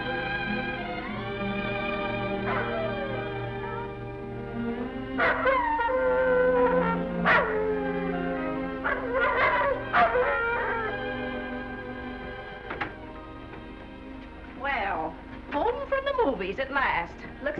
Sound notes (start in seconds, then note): 2.4 gentle music; 2.4 wolf howling